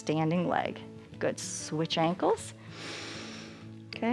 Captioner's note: inhales